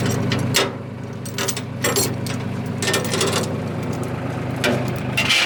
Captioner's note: metal Clanking